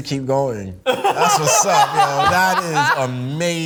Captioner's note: group laughs